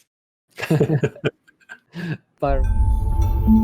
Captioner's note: chuckles